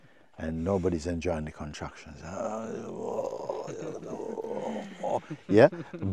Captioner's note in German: stöhnt